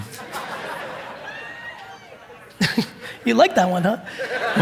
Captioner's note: audience laughing